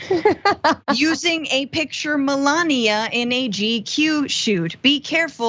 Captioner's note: laugh